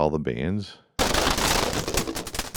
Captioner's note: crashing